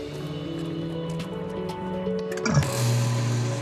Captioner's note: whirring